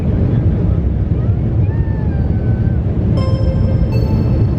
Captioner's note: soft yelling